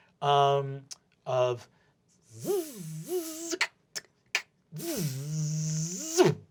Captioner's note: imitates zipping and rattling noises